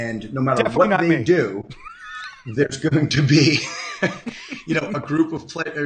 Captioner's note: laughs